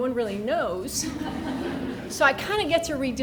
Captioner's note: people laughing